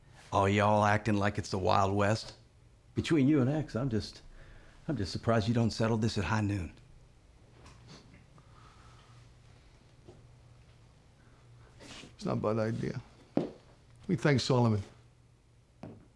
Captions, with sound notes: ALL Y'ALL ACTING LIKE IT'S THE WILD WEST. BETWEEN YOU AND EX, I'M JUST... I'M JUST SURPRISED YOU DON'T SETTLE THIS AT HIGH NOON. [SCOFFS] [SCOTTISH ACCENT] IT'S NOT A BAD IDEA. WHAT DO YOU THINK, SOLOMON?